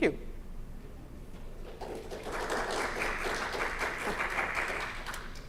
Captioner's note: applause